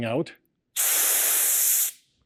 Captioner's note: loud hissing